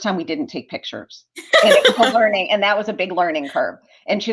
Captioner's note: laughter